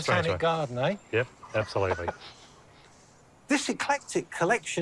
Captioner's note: laughs